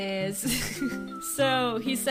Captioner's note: laughing